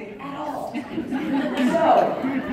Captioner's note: crowd Chuckling